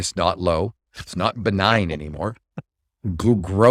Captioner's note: laughs